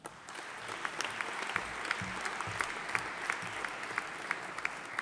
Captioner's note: audience applauding